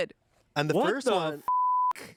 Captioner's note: beep